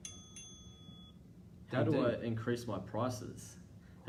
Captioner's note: timer dings